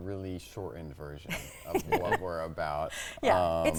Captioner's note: chuckling